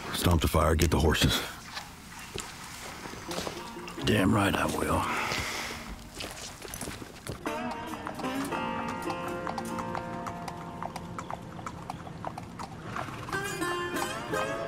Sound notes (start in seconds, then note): 7.4 horse hooves clopping; 7.4 somber Western music